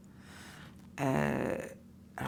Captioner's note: mouth noise